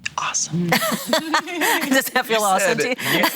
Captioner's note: laughing